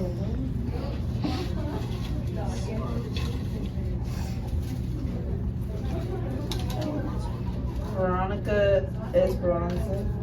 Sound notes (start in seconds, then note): 3.0 papers rustling